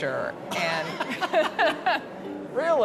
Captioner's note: laughter